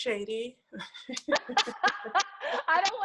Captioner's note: laugh